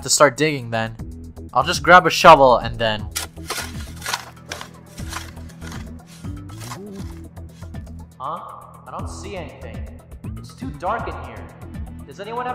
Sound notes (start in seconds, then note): 5.0 digging